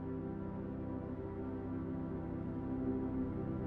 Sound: none

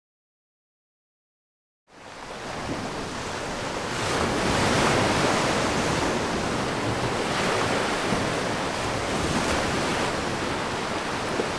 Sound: waves crashing

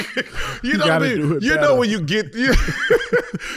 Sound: Gilbert laughs

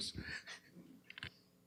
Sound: laughing

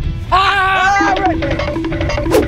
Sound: screaming; timer counting down

